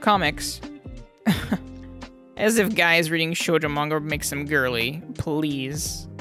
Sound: cough

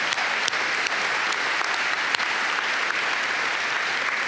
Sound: applause

